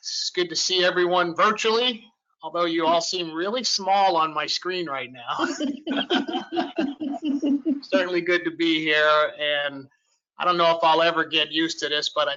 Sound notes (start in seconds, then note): 5.3 laughter